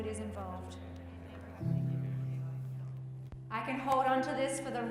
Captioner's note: group speaking quietly